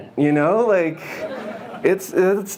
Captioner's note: audience laughs